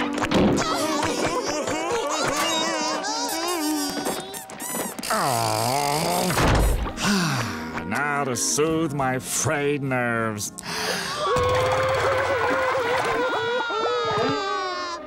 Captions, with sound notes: [crying] [groaning] [sighing] Now to soothe my frayed nerves. [crying]